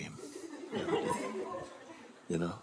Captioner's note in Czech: smích